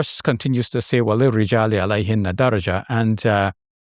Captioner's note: speaking in foreign language